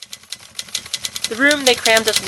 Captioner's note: faint typewriter sounds